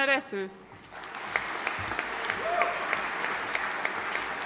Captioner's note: audience applauding